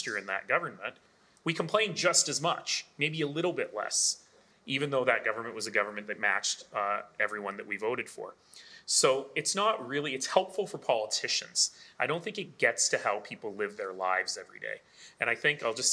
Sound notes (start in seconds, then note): none